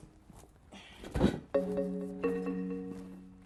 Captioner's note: metal clanks in box